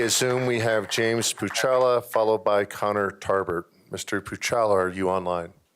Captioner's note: applause